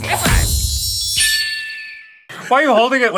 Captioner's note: distant cry of a red-tailed hawk